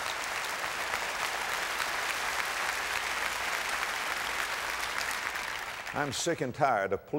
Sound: audience applause

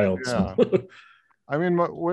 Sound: laughs

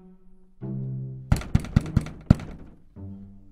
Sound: knocking on door

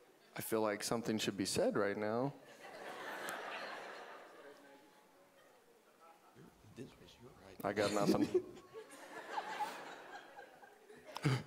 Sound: audience laughing

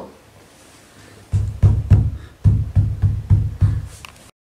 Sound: thud

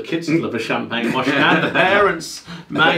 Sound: laughing

